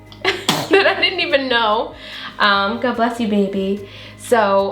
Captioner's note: child sneezes